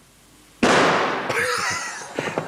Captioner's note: gunshot; both laughing